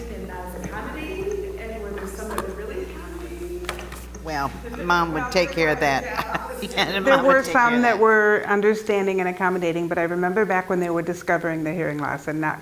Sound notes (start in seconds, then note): 5.3 laugh